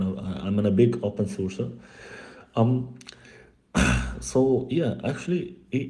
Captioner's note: suspira